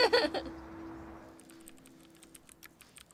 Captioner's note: laughing